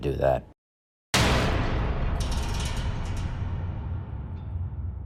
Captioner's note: loud booming